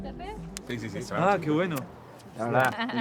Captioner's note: in Spanish